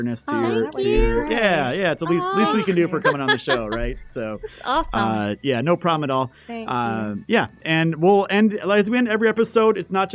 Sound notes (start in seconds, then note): 4.2 women chuckling